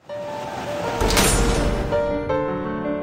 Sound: metal door slams shut

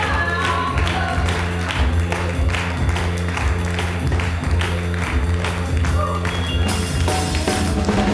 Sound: clapping; lively music

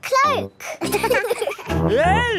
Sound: laughing

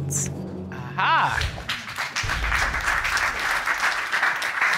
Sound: audience applauding

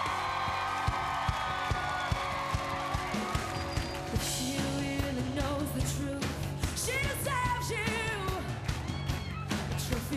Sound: cheers and applause

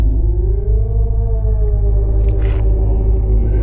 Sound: distant growls

